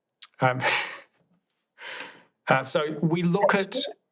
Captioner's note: laughs